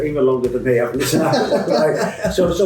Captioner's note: both laughing